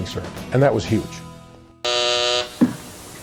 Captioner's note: buzzer